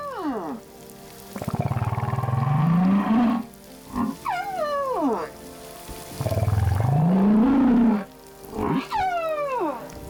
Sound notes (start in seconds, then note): 1.3 grunting, squeaking